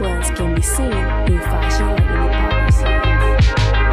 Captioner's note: voice fades